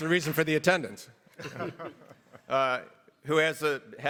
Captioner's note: everybody laughs